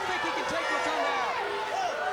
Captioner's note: crowd chatter